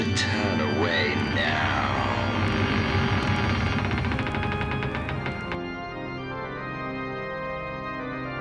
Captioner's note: haunted Voice